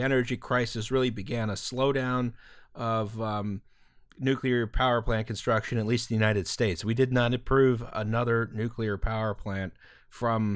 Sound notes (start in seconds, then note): none